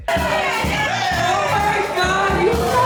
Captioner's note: guests cheering